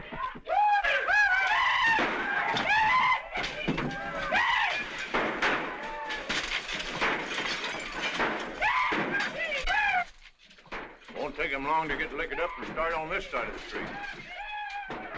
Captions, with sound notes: [ WHOOPING - CRACKS ] Won't take them long to get liquored up and start on this side of the street.